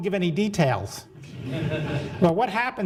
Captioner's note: audience laughing